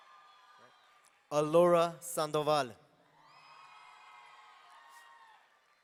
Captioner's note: audience cheering; audience cheering